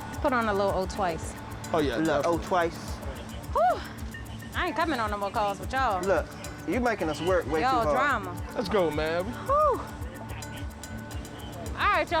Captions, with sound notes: Let's put her on a little O twice. Oh, yeah. O twice. [sighs] I ain't coming on no more calls with y'all. Look, you're making us work wait too hard. Y'all drama. Let's go, man. [sighs] All right, y'all be--